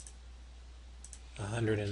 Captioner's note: click